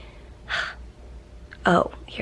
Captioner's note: sighs